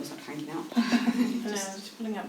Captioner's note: laughing